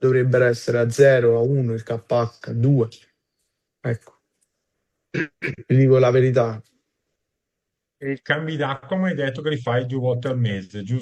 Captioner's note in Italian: schiarire la voce